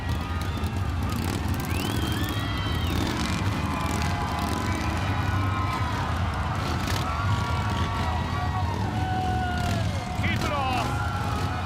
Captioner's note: crowd cheering